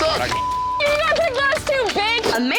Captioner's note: beep